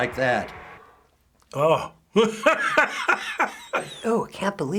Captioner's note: groans and laughs